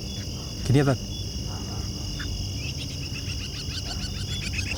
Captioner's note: animal calling